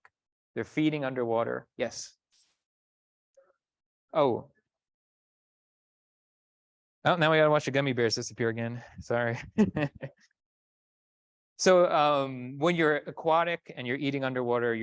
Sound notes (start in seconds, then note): 9.3 chuckles